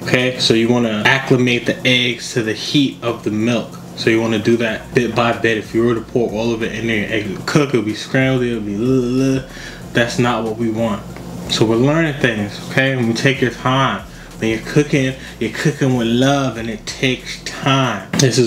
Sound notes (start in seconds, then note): 8.4 sound of disgust